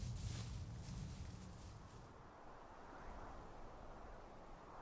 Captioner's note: wind whistling